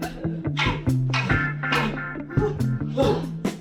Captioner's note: wood clacking